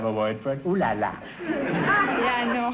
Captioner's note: audience laughter